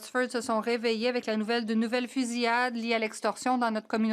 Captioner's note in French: voix de l'interprète